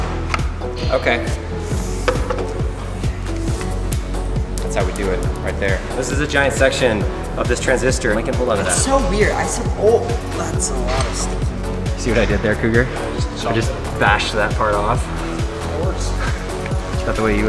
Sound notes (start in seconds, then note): 10.0 stuttering